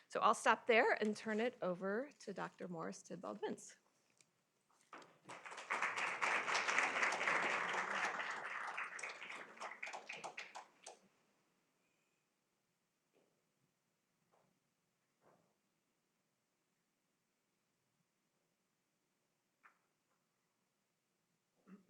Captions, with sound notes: I'll stop there and turn it over to Dr. Morris Tidball‑Binz. [applause]